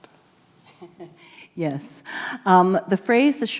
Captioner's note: chuckles